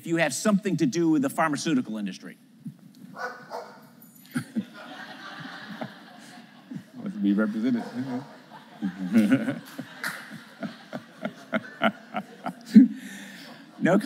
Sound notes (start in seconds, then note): 4.4 laughter; 8.9 laughs